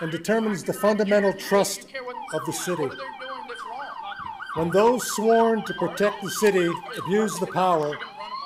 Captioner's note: sirens playing on video